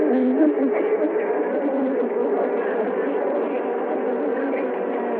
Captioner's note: bees buzzing